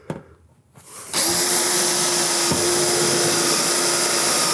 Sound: drill whirring

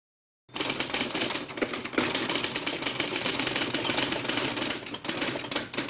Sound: typewriter keys clicking

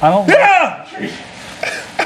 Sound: yells; laughs

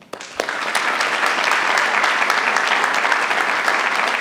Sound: attendees applauding

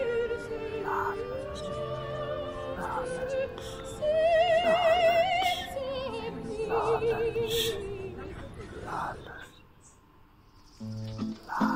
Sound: voices chanting

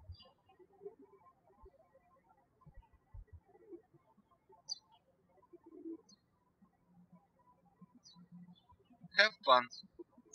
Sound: birds chirping

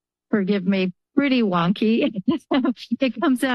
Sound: laughter

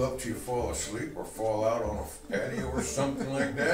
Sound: camera man laughs

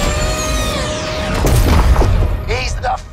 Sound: booming explosion

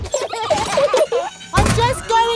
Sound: children giggling

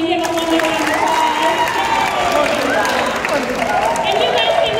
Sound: cheering and Applause

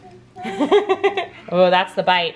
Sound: laughs

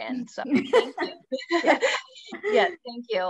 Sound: laughs

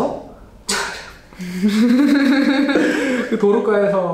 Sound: crack up

